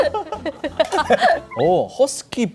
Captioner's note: failed to hold in laughter